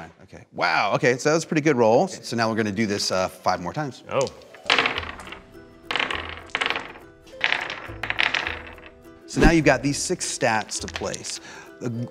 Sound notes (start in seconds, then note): 4.2 dice rolls; 6.0 light instrumental music